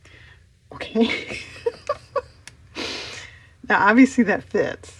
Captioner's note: laughs